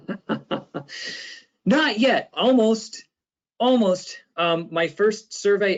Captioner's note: laughs